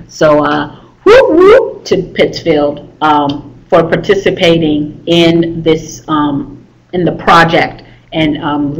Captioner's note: whooping